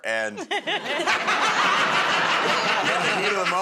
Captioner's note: laughter